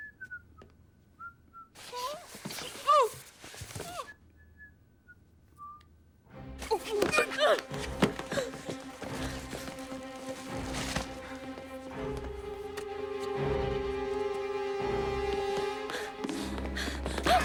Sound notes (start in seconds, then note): 0.0 Gordon whistling; 6.6 Jessica groaning; 10.4 suspenseful music